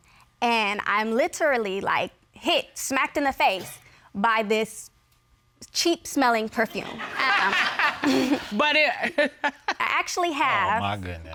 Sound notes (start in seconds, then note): 6.8 all laugh; 6.8 laughs